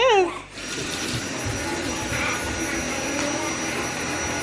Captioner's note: vacuum cleaner noise